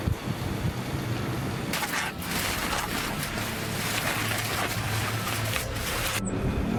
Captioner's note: wind; leaves rustling